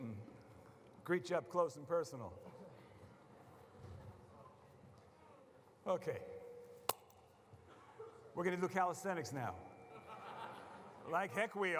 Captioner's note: laughter